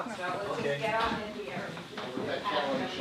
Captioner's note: chatter